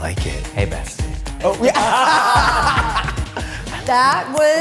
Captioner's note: all laughing